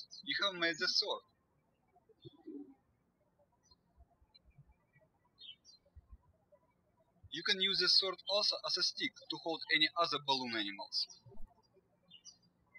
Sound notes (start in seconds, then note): 2.3 birds chirping; 12.5 birds chirping